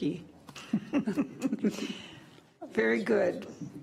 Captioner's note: laughing